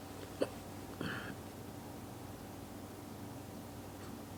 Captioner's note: hiccups